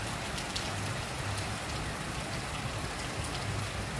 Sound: rain Sounds

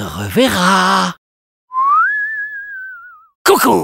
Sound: whistles

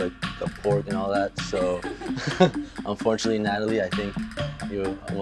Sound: laughs

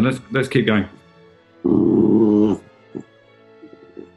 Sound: quiet growling

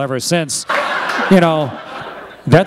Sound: laughter

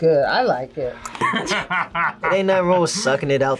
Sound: laughs

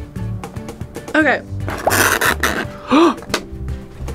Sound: nails scratching; gasps

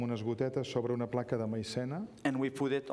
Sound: speaking catalan

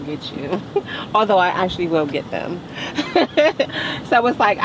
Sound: laughs

